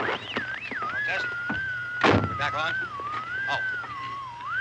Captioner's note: radio comes on